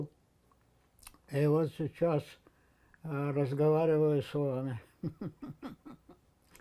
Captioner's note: laughing